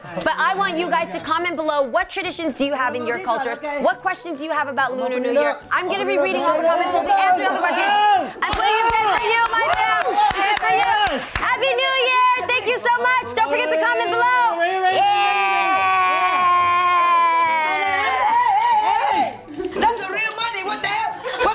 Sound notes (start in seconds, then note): 7.9 group shouting and exclaiming; 15.0 exclaiming